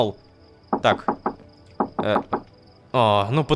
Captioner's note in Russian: Стук в дверь